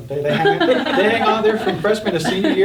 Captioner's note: all laughing